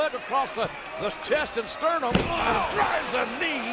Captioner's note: blow thudding